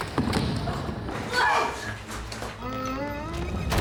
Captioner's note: all groan